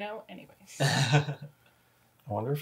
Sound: laughs

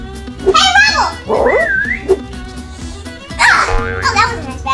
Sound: assistant whistling; assistant gasping

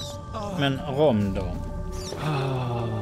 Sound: sigh

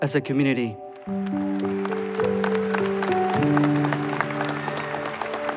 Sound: crowd cheers and applauds

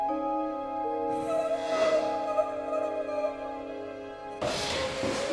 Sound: A woman crying hard

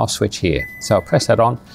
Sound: beep

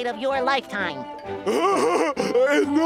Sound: laughing

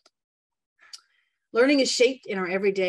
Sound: mouse clicks

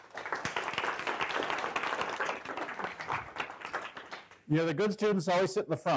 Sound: applause

